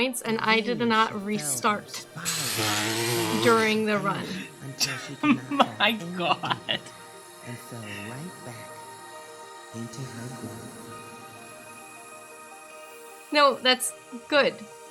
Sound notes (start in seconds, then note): 5.3 laughing